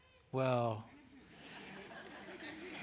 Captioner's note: laughter